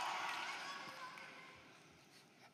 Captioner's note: cheering and Applause